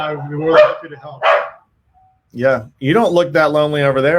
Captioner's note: barking